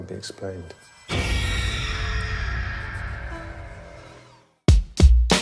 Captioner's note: eerie screaming